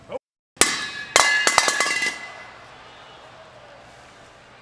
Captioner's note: CM Punk chuckles; urn clatters